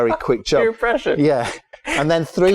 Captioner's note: laughter